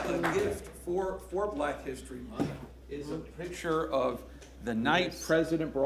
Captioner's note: applause